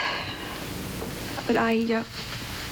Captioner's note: sighing